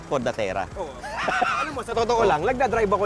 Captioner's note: laughs